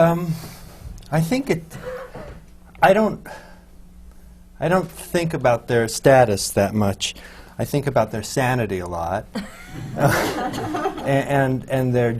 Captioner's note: laughter